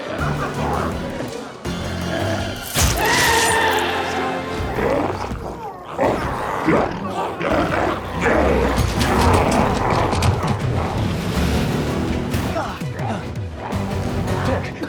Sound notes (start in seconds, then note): 0.1 dramatic music continues; 3.5 glowzie shouts; 12.5 dramatic music continues